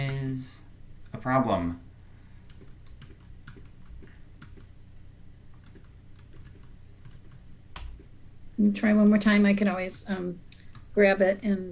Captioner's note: sound of typing